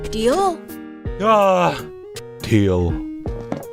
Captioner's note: sigh